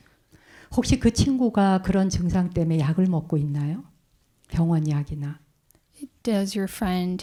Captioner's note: speaking in Korean